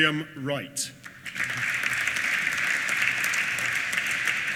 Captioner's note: applause